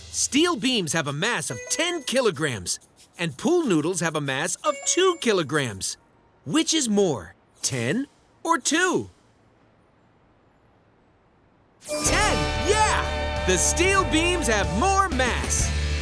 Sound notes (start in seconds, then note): none